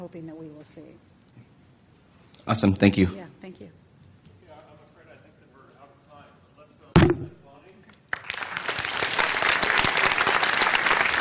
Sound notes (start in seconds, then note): 7.0 computer clanking on microphone; 8.1 audience applause